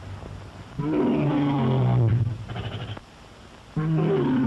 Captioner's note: lion roars